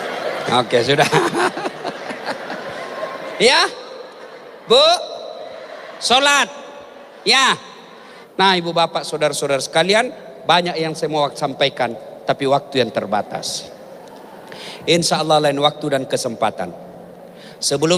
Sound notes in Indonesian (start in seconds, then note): 0.9 tertawa